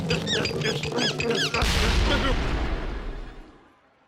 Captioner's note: explosion booms